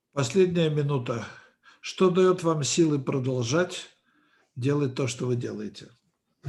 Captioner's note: translator speaking Russian language